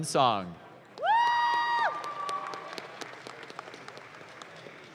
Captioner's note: audience claps